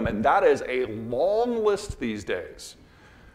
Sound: none

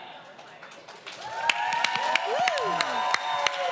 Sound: audience applause

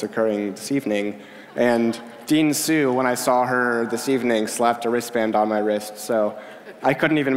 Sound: laughter

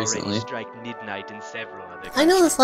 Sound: other voice on the TV

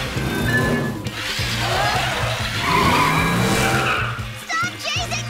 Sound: tires squealing; dramatic music

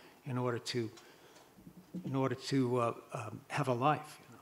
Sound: none

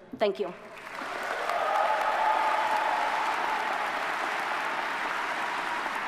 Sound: audience cheers and applauds

